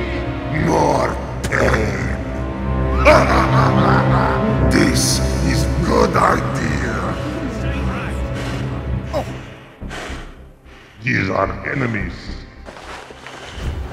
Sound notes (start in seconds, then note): 3.0 Sandwich laughs evil